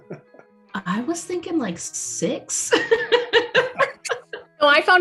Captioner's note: chuckles; laughs